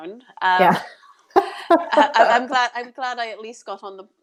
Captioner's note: laughs